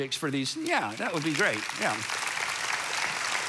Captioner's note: congregation applauds